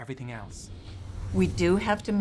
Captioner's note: whooshing